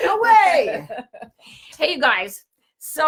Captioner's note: laughs